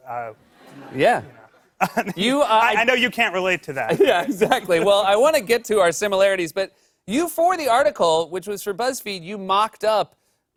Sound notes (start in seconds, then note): 3.8 laughing